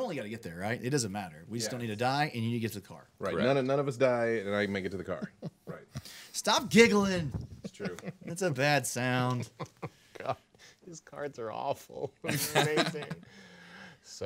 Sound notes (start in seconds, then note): 7.4 man giggling